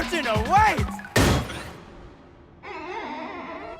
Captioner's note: thud